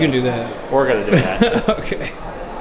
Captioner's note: laughing